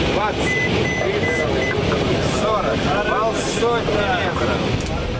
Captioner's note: aeroplane engine beeping